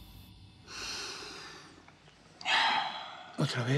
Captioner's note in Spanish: inhala y exhala fuerte